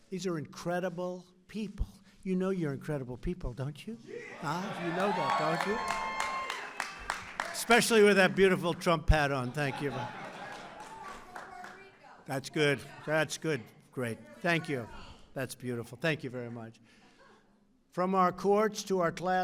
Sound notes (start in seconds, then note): 4.4 applause; 9.3 laughter